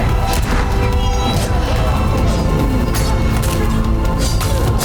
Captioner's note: weapons clashing